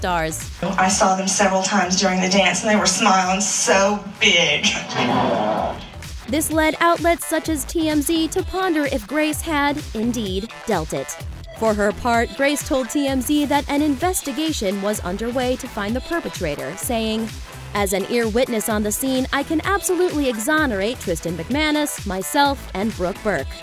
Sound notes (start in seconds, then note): 4.7 fart noise